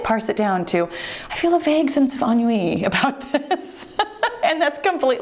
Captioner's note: laughs